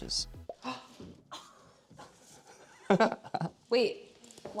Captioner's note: gasps